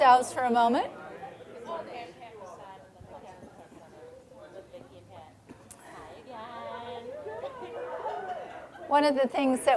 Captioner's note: general chatter